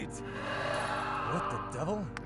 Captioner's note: screams